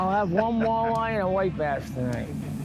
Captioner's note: speaker laughs